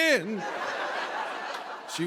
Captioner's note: laughter